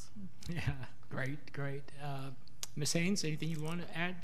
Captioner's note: laughs